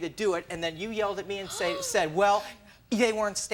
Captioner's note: sighing